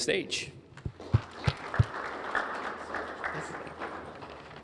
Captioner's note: applause